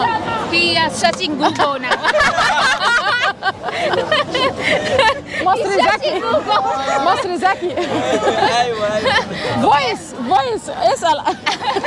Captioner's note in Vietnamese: Tiếng cười